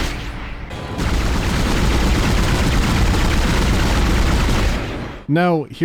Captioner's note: bassy pew-pew-pew and sounds of ricocheting bullets